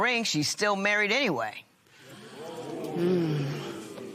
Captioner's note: spectators murmur